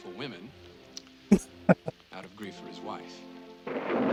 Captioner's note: chuckling